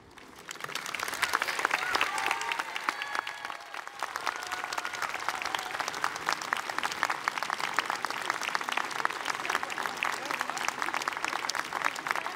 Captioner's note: applause